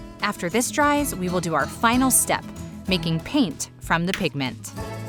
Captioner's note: none